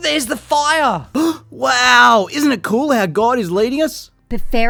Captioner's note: gasping